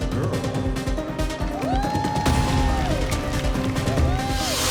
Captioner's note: applause